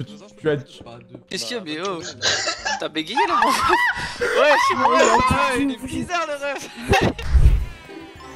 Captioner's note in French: rire